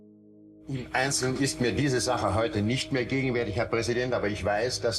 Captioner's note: Eichmann speaking in German